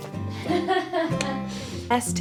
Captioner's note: laughs